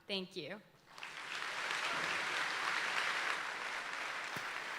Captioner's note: audience applauding